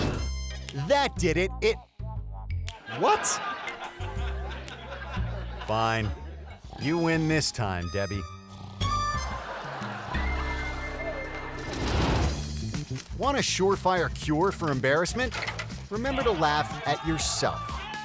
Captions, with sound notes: That did it. It- What? (audience laughing) Fine, you win this time, Debbie. Want a surefire cure for embarrassment? Remember to laugh at yourself.